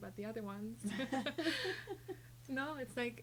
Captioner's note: laughing